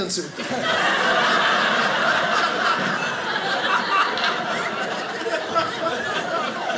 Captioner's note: audience laughing